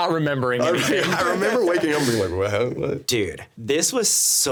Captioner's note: laughing